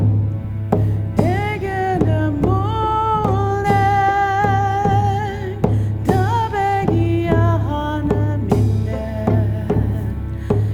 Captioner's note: In Mi’kmaq